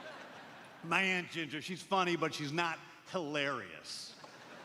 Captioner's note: laughter